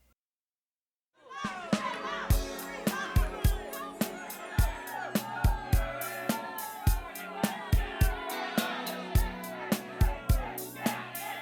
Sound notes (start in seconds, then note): 1.3 crowd boos; 2.3 smooth jazz music plays